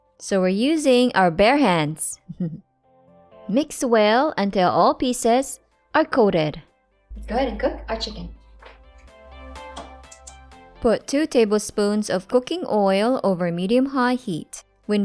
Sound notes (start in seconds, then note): 9.7 stove clicks